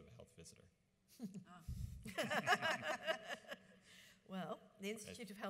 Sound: panel laughs

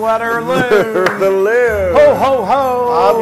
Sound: laugh

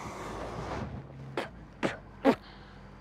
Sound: spitting

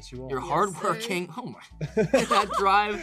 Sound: everyone laughs

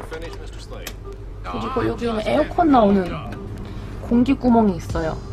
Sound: wind

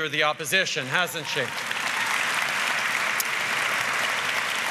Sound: applause

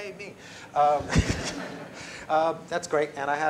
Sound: laughter

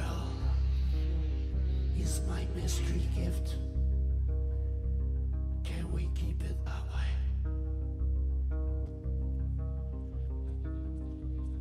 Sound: speaking French

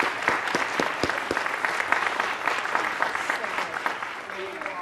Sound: applause continues

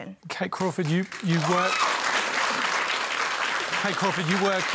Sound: cheering and applause

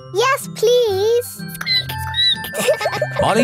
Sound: squeaks; squeaking; all laughing

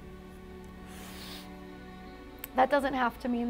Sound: sniffles

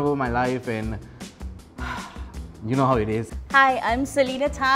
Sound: sighs

